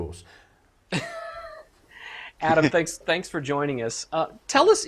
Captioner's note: laughs